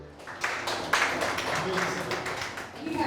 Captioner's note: people clapping